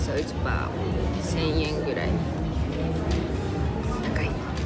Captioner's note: speaking foreign language